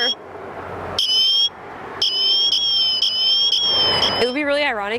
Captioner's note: alarm sounding